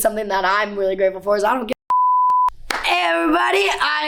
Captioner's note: beeps